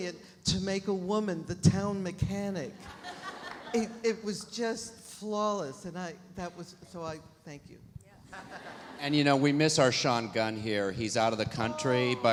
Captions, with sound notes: to make a woman the town mechanic. (audience laughs) It was just flawless and that was, so I thank you. - Yes. - And we miss our Sean Gunn here. He's out of the country - Oh!